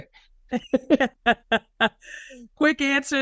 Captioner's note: chuckle